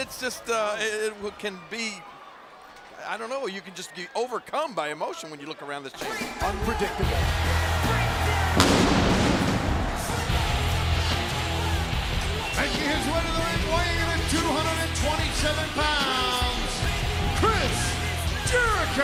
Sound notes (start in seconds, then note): 8.5 pyrotechnics blast; 8.9 dynamic music